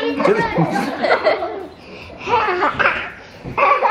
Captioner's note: laughing